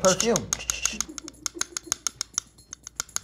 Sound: cup clinks

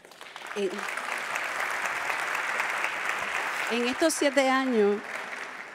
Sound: speaks in Spanish

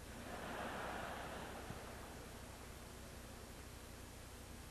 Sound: audience laughs

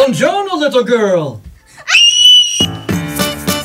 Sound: scream

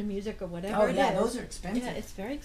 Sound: voiceover

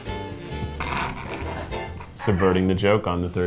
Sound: snickering

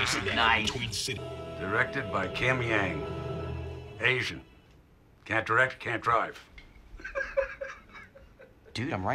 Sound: all laugh; laughs

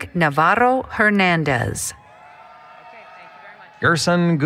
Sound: applause, Cheering

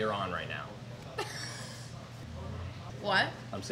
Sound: laughs

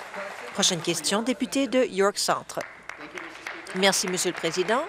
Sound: applause

